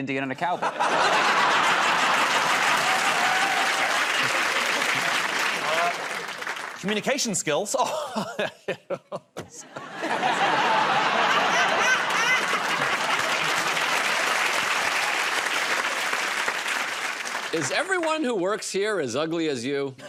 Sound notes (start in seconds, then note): 3.9 laughter and cheering; 7.9 laughs awkwardly; 11.6 laughter; 13.8 applause